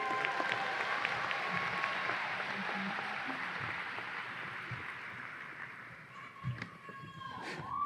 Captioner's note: audience applause and cheers